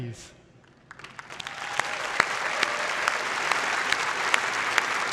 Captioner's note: applause